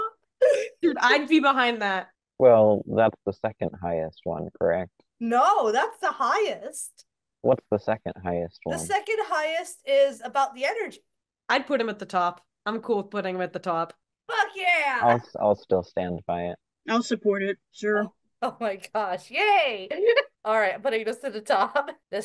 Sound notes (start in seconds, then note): 17.0 rev